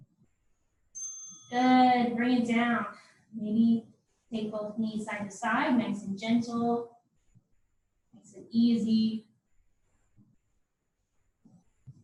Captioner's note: ding